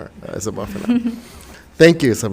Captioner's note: chuckles